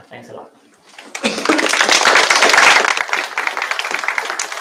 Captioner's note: applause